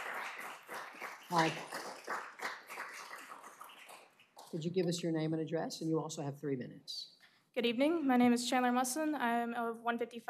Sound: applause

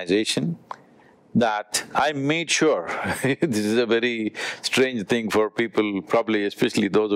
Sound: laughs

